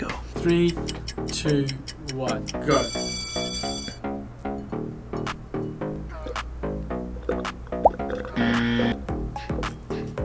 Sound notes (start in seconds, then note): 2.6 bell rings; 7.7 slurps quietly; 8.4 buzzer